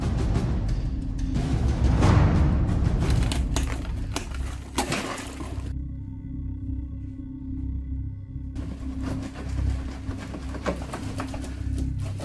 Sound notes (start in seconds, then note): 3.0 plastic rustling; 4.8 plastic and boxes rustling; 6.6 air quavering; 8.9 boxes shaking